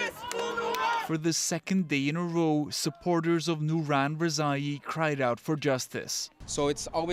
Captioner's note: chanting